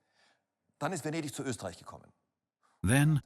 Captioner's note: speaks in foreign language